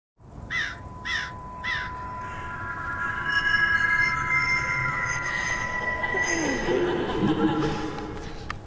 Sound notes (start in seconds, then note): 0.5 crows caw; 2.2 eerie music; 6.6 female laughter